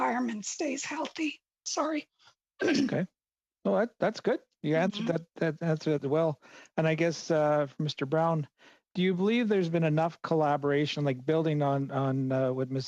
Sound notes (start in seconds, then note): 4.7 clearing of throat